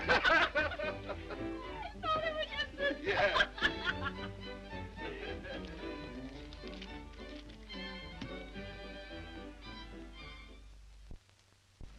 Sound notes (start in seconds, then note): 0.0 Mildred and Harry laugh; 6.1 laughs